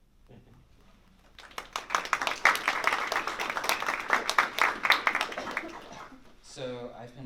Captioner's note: applause